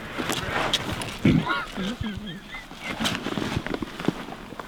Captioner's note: cameraman laughing